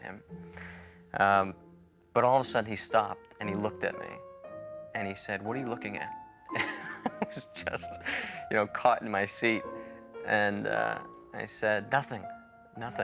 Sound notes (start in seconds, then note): 6.5 chuckles